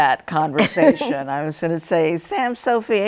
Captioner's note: laughter